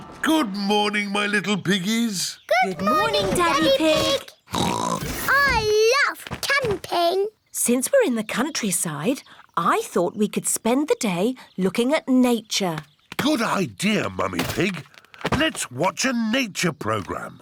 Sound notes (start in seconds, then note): 4.5 oinks